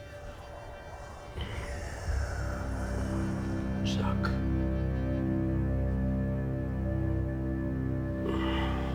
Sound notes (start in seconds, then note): 2.8 voice rumbles